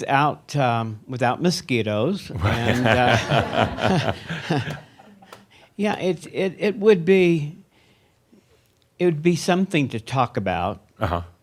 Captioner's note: laughter